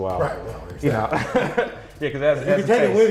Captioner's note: laughs